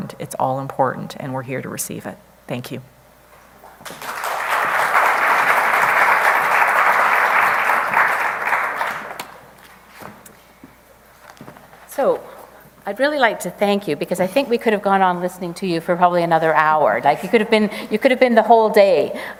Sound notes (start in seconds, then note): 3.8 applause